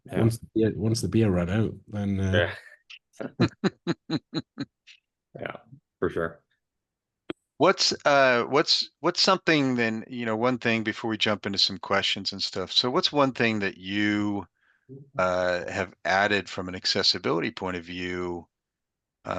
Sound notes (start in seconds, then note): 3.2 person laughing